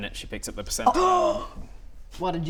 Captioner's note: gasp